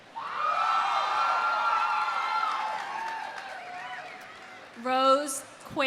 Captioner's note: audience cheering; audience applauding